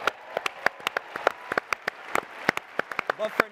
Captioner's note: applause